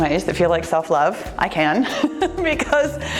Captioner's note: laughs